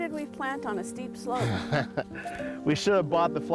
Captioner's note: laughing